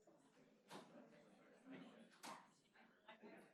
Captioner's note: chatter